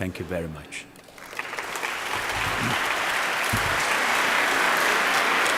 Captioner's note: applause